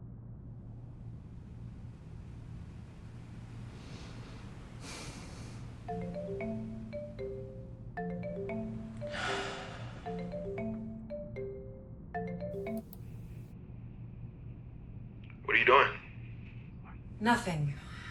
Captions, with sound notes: (video call ringing) - What are you doing? - Nothing.